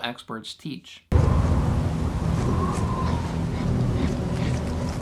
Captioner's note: strong wind blowing